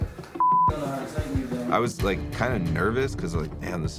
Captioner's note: beep